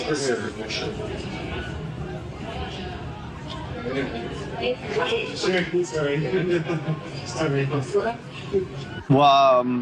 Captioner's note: background bar noise